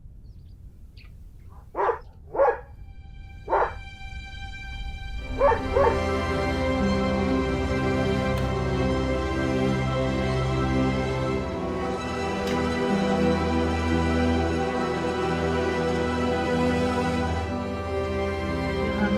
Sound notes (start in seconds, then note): 1.5 dog barking; 3.6 calm strings music; 5.3 dog barking